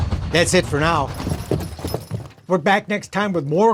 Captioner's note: hooves stomping